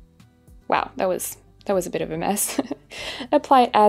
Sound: chuckling

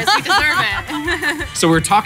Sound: laughing

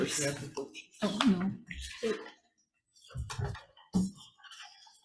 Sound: papers rustling

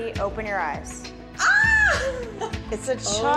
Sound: screaming

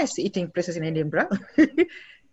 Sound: laughs

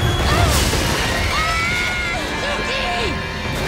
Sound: screaming

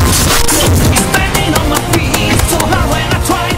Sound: 7 hitmarker clicks

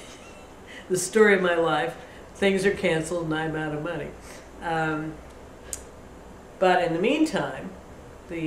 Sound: laughs

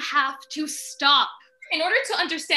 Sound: a wolf howls in the distance

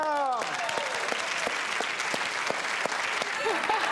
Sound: applause

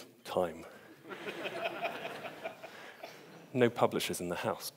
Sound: audience laughs

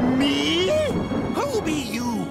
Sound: thunder clap

